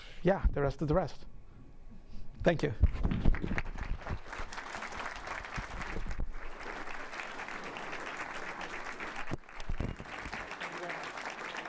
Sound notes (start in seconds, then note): 3.2 audience applauding